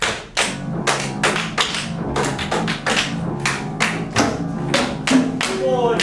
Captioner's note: rhythmic clapping